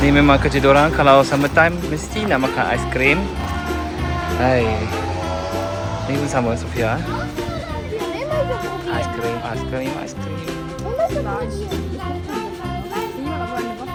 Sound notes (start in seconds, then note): 4.6 sigh; 13.2 speaking German